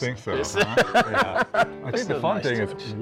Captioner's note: general laughter